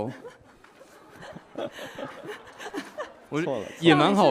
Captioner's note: laughing